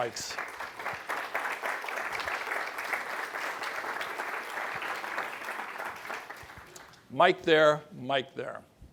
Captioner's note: applause